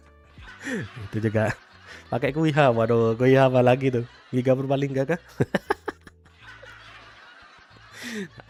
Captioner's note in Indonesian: tertawa